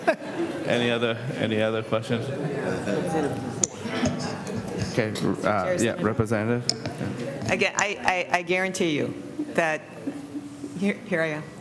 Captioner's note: laughter